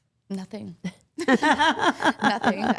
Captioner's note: Steph laughs